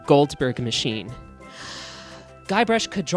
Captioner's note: deep breath